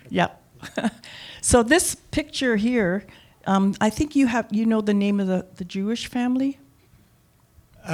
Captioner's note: chuckle